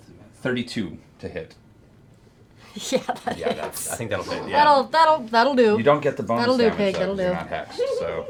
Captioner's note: laughing